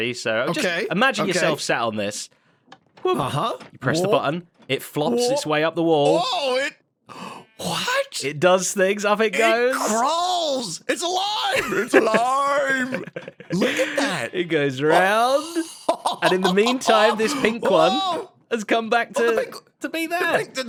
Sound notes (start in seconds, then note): 14.8 TANGO laughs